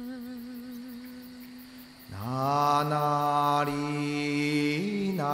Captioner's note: crickets chirping